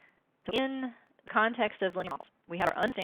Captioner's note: glitching speaking